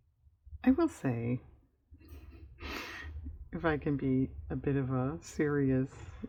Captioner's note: laughs